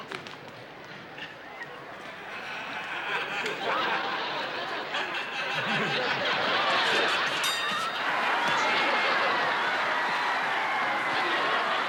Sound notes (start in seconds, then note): 4.8 laughter; 7.2 bell rings; 7.8 cheering